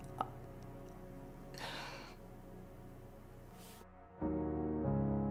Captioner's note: exhales loudly